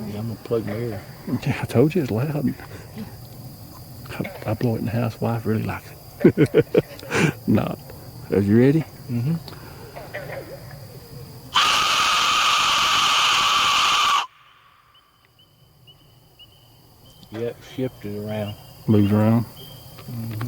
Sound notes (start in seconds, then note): 6.2 chuckles; 11.5 loud screaming sound